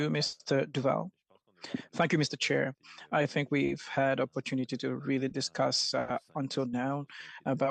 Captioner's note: speaking French